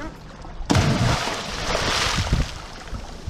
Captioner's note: splash